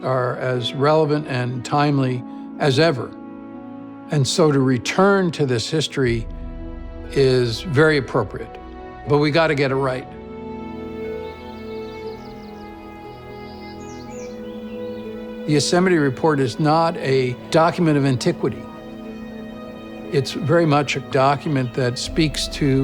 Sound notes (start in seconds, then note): 12.0 birds chirping